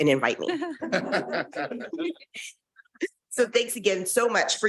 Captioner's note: board members laughing; chuckling